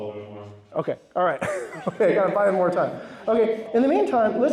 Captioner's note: laughs